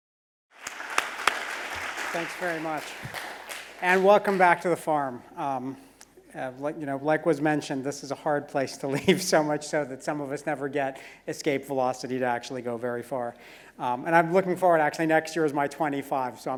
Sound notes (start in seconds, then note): 0.5 applause; 9.1 laugh